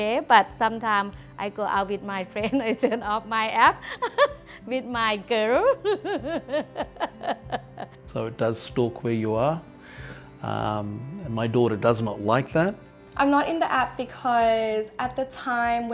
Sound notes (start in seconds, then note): 5.7 laughs